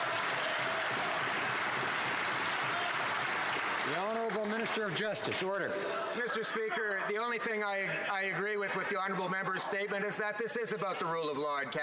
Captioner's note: some Applause